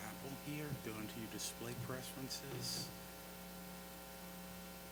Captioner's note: talking quietly about setup